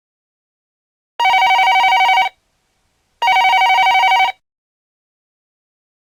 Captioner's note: beep beep beep